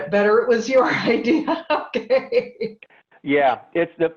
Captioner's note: laugh